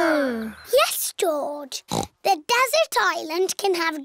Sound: snorts

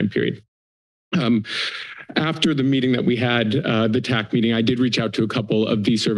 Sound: inhales

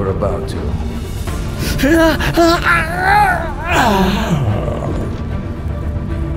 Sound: Gareth screams in pain

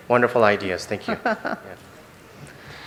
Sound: laughs

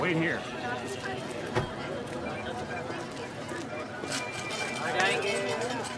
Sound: chattering in foreign language

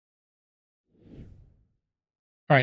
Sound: whoosh

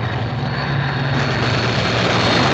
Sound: gunfire

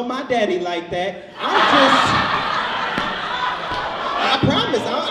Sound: audience laughs

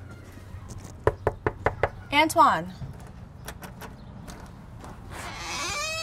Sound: knuckles rapping

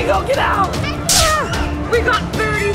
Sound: screaming

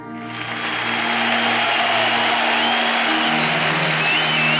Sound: audience applauding

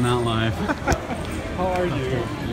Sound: laughter

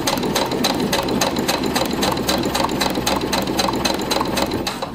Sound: machine whirring

